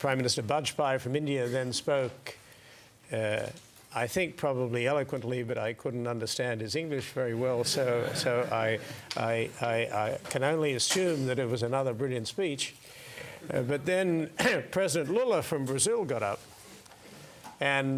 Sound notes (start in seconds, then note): 7.6 laugh; 14.4 cough